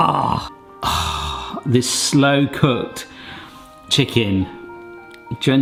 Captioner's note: sighs